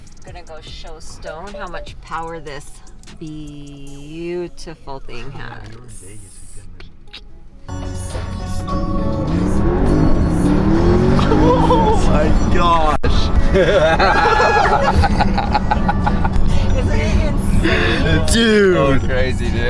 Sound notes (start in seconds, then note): 8.0 Porsche revving; 13.2 laughing